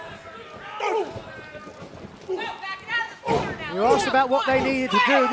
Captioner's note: crowd chatter